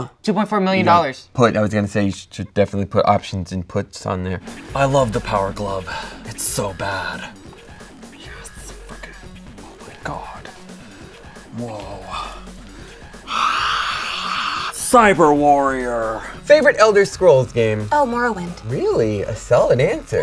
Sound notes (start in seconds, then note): 7.3 whispers; 13.2 loudly exhales